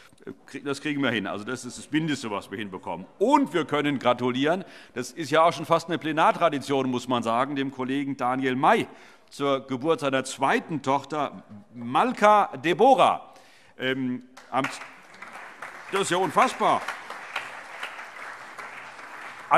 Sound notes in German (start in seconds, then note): 14.3 Allgemeiner Beifall